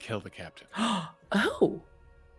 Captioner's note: gasps